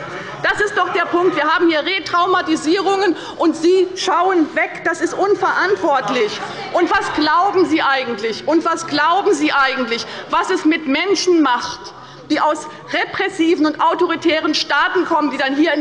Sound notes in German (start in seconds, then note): 6.5 Zurufe von der CDU